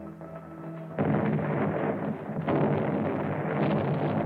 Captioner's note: artillery firing